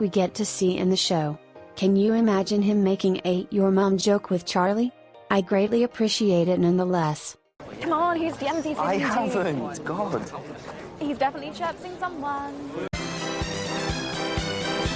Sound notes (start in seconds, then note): none